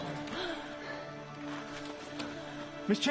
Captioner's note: none